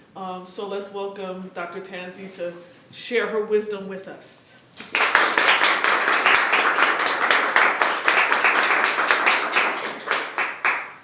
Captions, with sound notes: um so let's welcome Dr. Tanzi to share her wisdom with us. >> [Applause]